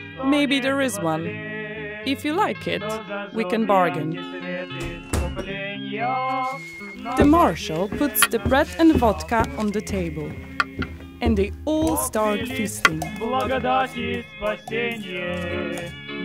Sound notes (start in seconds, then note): 4.8 door banging; 12.5 clanking